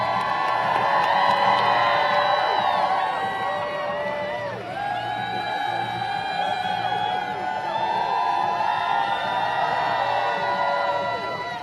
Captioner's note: applause